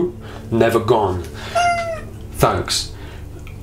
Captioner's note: squawks